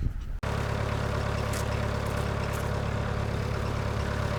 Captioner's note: engine rumbles